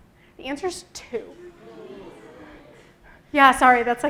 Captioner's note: booing